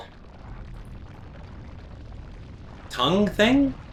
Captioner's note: gaming sounds